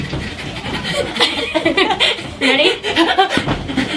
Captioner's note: both laughing